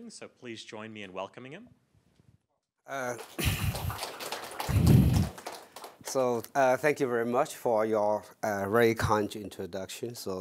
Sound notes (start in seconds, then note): 2.9 applause